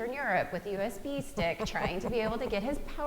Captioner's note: laughing